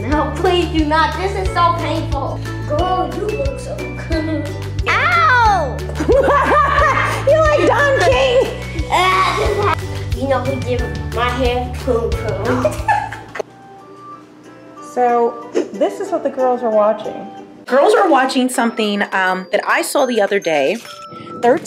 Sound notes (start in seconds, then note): 5.9 laughter; 10.0 laughter; 12.6 laughter